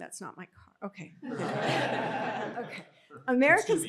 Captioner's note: laughter